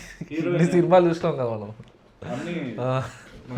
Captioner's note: laughs